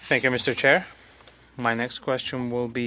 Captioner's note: speaking French